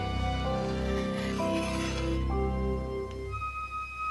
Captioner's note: rustling